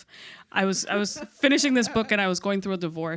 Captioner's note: chuckles